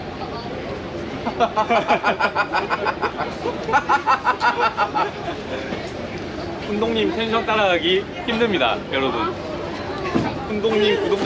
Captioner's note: laughing